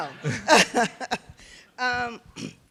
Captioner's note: laughter